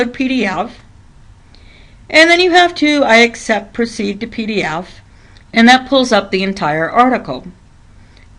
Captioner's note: click